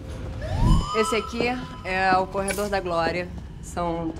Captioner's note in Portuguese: efeito de sirene